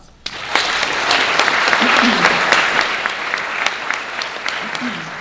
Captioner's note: audience applauding